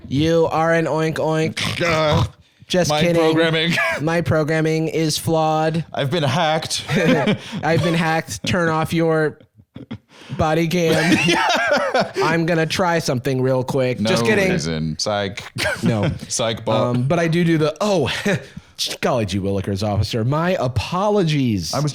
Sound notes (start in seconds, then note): 11.3 laughs